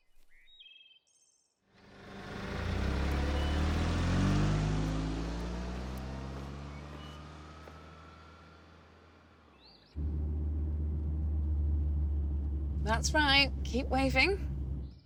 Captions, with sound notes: (engine revving) - That's right, keep waving.